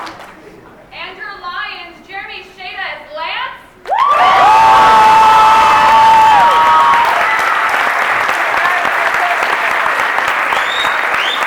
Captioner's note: cheering